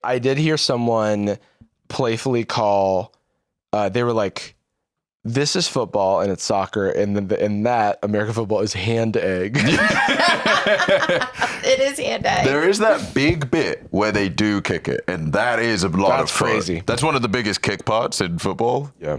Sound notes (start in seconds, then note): 9.5 all laughing